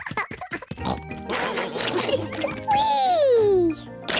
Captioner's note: all laughing